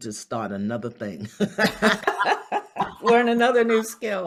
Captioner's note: both laugh